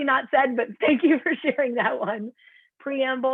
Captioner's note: laughter